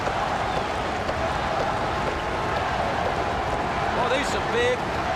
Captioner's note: crowd chatter